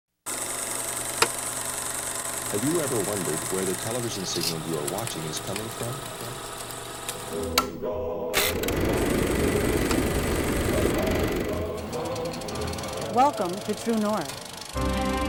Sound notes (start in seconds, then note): 0.3 projector clicking; 8.3 projector clicking; 15.0 upbeat music